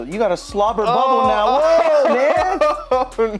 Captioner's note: laughs; both scream